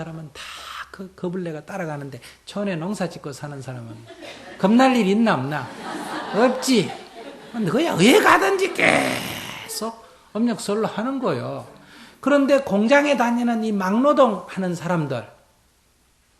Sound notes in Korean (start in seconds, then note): 5.6 청중 웃음